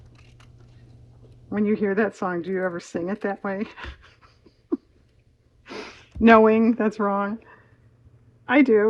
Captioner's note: laughs